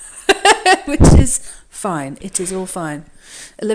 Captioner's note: laughs